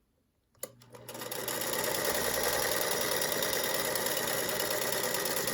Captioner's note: machine whirring